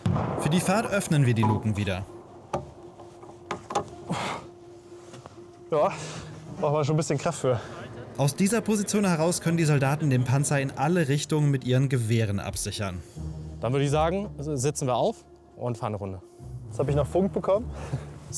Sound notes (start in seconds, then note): 3.2 panting